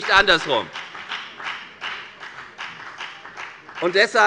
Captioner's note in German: Beifall bei der FDP